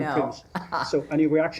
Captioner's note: laughter